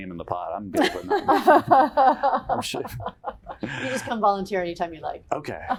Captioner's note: laughter